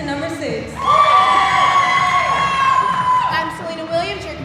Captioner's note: audience cheering